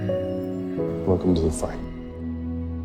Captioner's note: voiceover